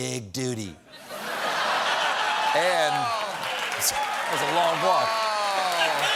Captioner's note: laughter